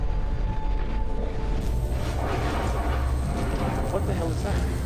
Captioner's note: thunder rumbles